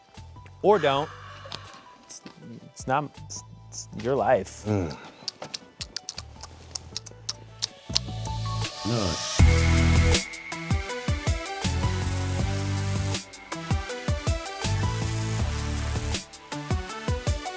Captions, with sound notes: - Or don't. It's not, it's your life. (lips smacking) (upbeat music)